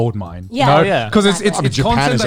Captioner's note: group agreeing